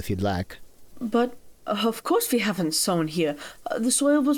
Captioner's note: accented